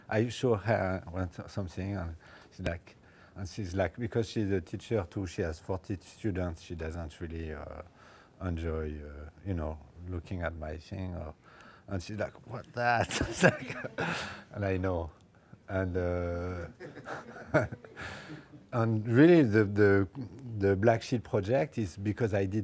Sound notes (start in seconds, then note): 12.9 laughs